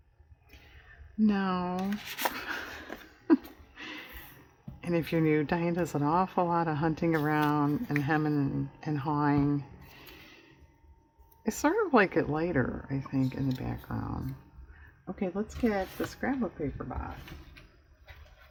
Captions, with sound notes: no maybe dark no (laughs) and if you're new, Diane does an awful lot of hunting around and hemming and hawing i sort of like it lighter I think, in the background okay let's get the scrapbook paper box